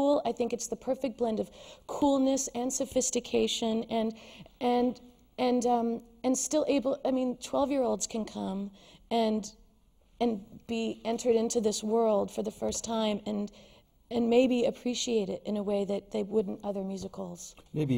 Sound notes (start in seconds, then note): none